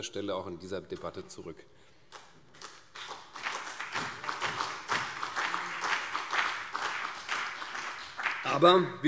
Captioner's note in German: Beifall CDU und BÜNDNIS 90/DIE GRÜNEN